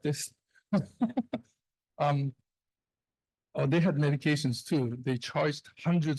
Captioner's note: laughs